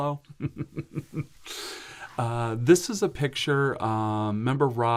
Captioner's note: chuckles